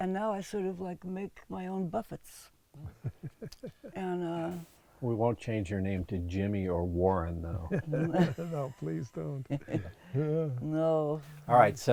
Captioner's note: laughs